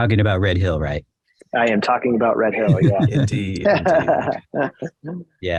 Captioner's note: laughter